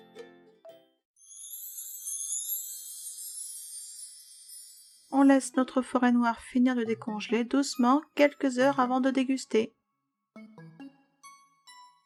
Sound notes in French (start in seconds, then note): 1.2 🎶 Son Féérique 🧚‍♀️🎶